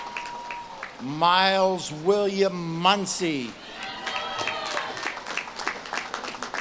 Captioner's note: audience claps and cheers